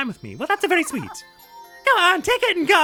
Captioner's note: as Mario